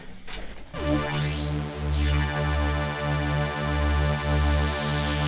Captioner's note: eerie sci-fi whirring